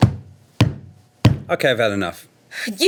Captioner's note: stomping